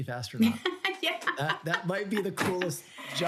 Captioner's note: laughs